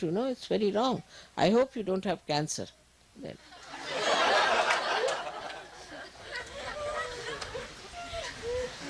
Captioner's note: laughter